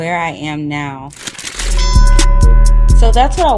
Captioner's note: bell dings